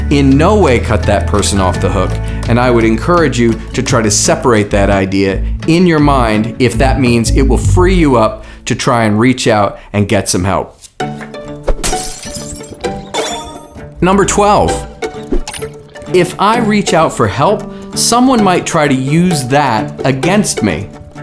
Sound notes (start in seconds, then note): 11.0 upbeat music; 11.7 glass shattering